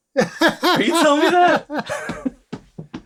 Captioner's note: laughter